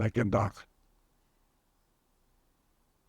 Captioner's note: pauses 6 seconds